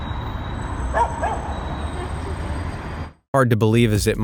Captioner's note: dog barking